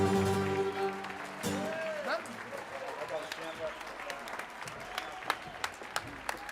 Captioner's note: audience applauds and cheers